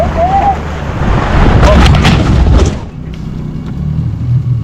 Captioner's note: crashing sound